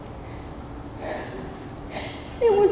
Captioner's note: sighs heavily